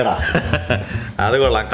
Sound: laughs

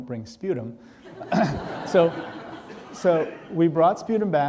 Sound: audience laughing

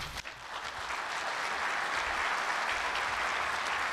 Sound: audience applauds

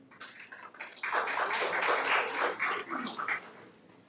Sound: audience applauds

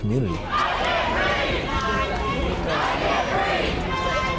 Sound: crowd chanting

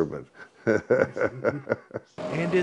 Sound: laughs

